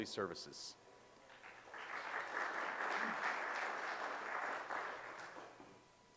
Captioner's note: audience applause